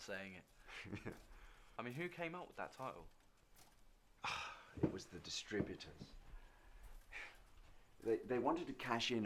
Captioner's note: sigh